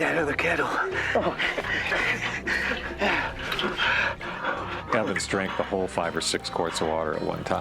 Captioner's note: panting